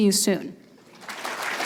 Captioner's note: applause